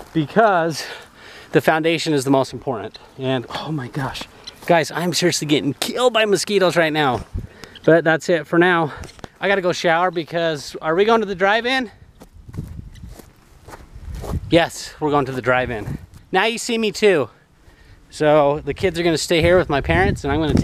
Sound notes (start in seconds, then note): none